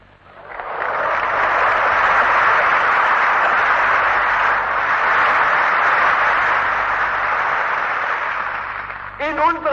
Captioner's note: applause